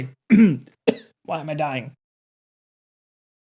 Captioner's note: coughing